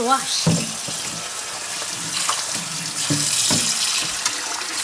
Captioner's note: water splashing